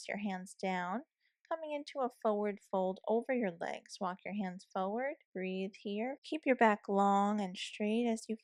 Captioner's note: breathe